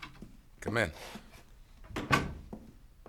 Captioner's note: door opens